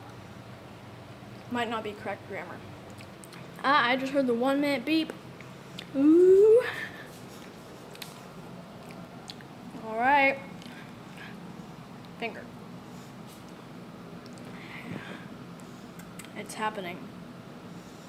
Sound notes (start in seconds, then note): 8.8 still eating